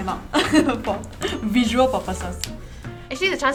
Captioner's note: laughs